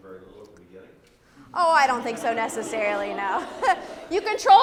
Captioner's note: laugh